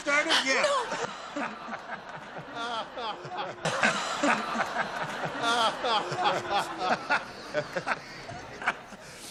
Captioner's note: laughter